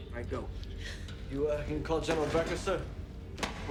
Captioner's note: Kelly gasps